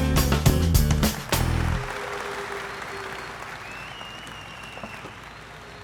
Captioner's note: audience applauding